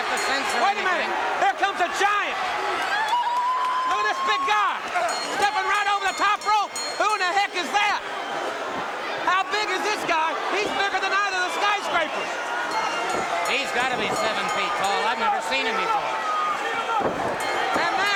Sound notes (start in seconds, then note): 3.4 crowd cheering; 7.0 bell ringing; 12.6 bell ringing; 12.9 crowd cheering; 17.3 bell ringing